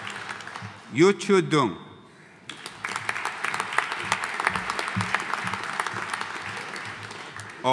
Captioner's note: audience applauding